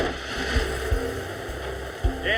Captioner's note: engine starts